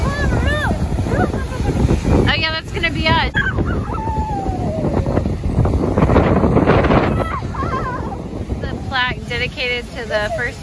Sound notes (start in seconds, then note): 7.3 wind blowing